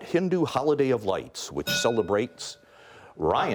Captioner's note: bell rings